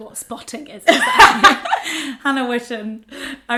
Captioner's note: laughs